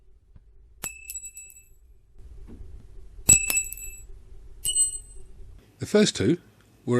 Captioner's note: 3 Sounds of pin dropping